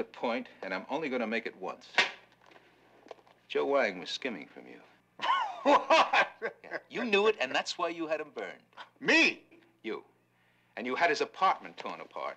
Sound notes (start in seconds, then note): 5.2 laughing